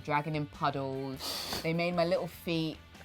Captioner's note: laughing